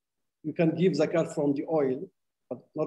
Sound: speaking arabic

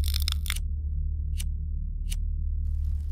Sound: lighter flicking

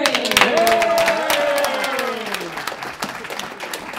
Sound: applause

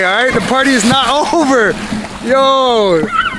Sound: water splashes

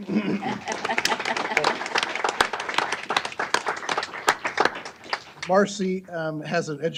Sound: applause

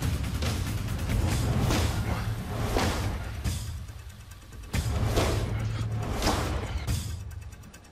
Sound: thwacking

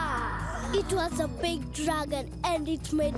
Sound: children gasp

